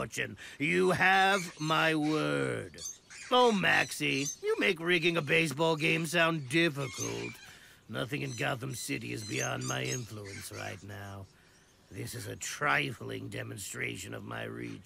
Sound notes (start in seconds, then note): none